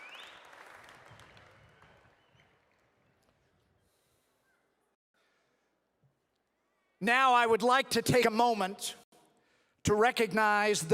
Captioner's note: applause